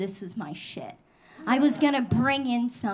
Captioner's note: audience laughing